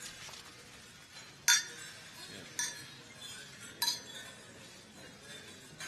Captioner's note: clank of glasses